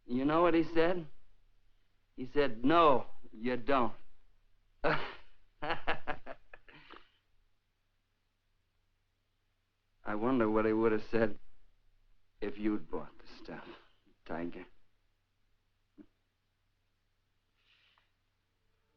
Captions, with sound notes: You know what he said? He said, "no, you don't." (Laughs) I wonder what he would have said if you'd bought the stuff, tiger.